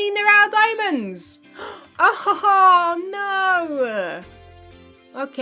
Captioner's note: gasps